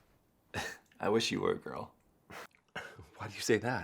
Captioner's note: laughs